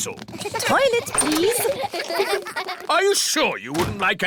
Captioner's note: kids giggling